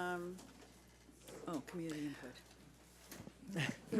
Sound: people chattering

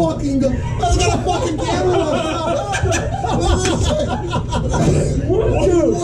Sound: all laughing

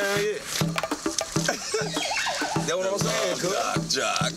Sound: laughing

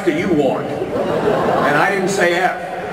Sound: audience laughter

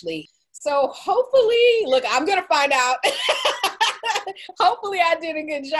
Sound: laughing

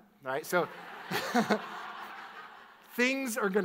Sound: audience laughs

